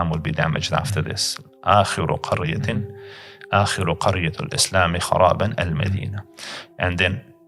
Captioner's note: Arabic